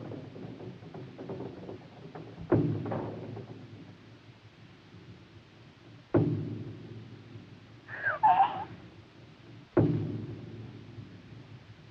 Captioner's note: Eve gasping